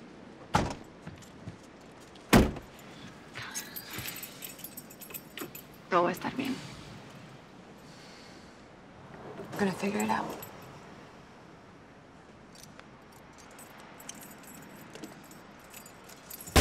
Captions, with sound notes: [ Car door closes ] [ Keys jangle ] Todo está bien. [ Inhales deeply ] We're gonna figure it out. [ Keys jangling ]